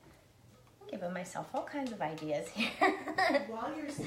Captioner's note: laughing